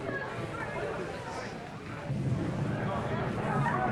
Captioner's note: crowd murmuring